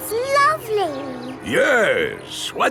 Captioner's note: none